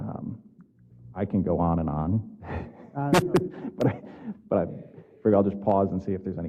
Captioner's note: laugh